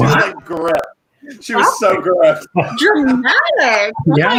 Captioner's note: laughs